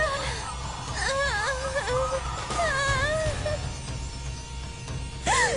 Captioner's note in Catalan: Crits